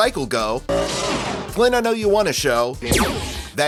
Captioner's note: tron sfx